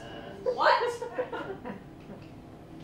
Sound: laughter

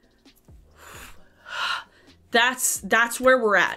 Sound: exhaling

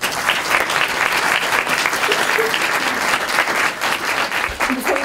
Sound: applause

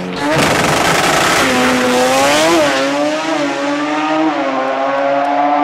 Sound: car engine speeding down track

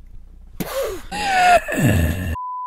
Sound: the sound of a lost soul

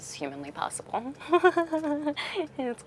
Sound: Vanessa laughing

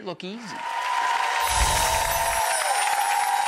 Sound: audience applause

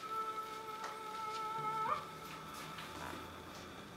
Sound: none

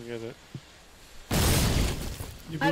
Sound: boom

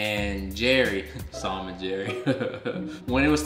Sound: chuckling

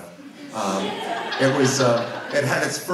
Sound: audience laughs

